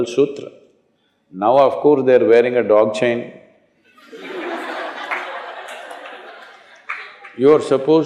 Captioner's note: laughter